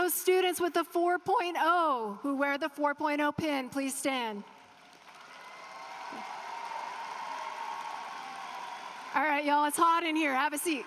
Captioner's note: applause